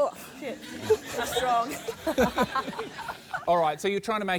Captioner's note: laughs